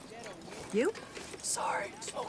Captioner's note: hoarse